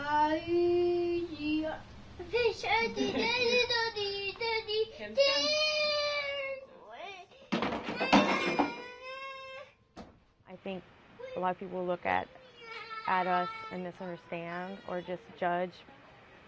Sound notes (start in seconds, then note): 7.1 child talking